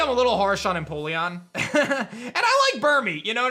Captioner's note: chuckles